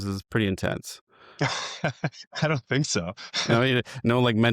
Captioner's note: laughs